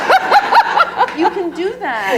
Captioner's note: laughter